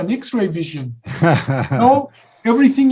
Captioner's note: giggles